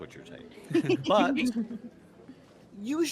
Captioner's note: laughs